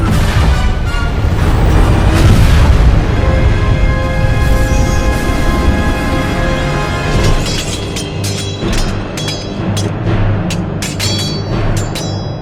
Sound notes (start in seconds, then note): none